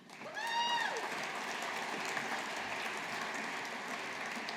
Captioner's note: audience applauding